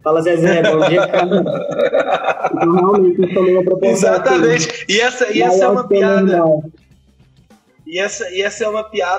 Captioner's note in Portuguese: risos